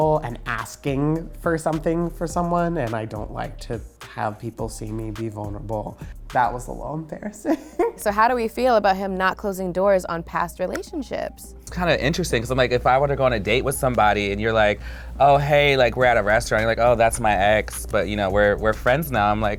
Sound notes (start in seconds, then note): 7.7 laughs